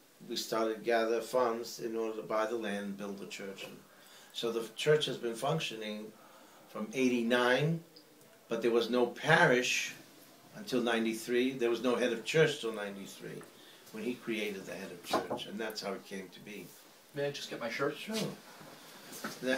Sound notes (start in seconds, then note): 15.1 knock, knock